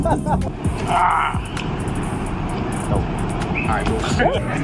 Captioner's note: laughing; grunt; laughing